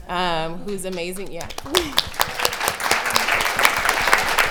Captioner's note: applause